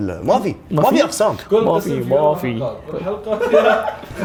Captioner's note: mockingly